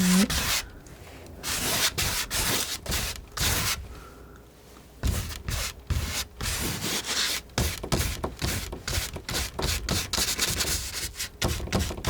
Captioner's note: scratching